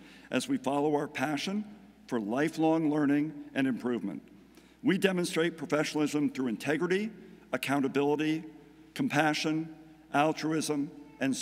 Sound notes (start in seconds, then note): none